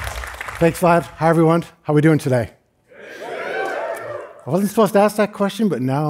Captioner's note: cheering